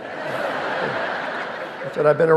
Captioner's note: audience laughing